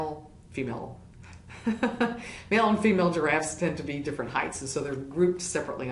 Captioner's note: laugh